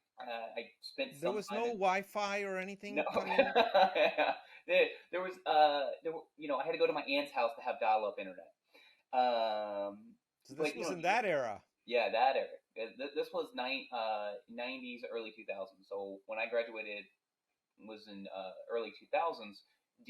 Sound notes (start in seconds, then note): 3.0 laughing